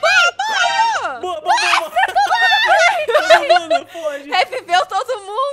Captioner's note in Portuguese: Risadas